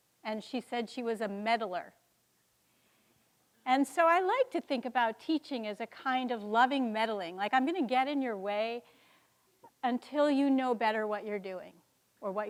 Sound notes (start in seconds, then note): none